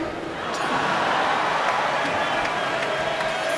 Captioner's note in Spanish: Bullicio